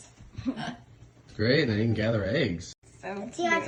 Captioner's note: laughs